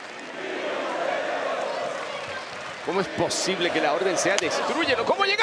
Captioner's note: applause